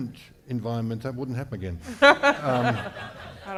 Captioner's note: laughter